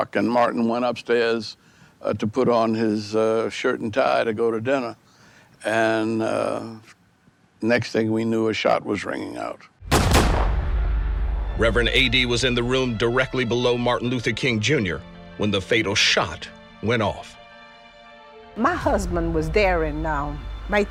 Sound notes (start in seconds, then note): 9.8 gun firing